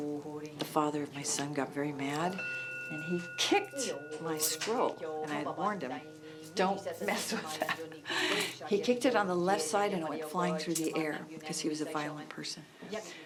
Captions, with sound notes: the father of my son got very mad, and he kicked my scroll. And I warned him, "Don't mess with that" [laughs] He kicked it on the left side, and it went flying through the air. 'Cause he was a violent person.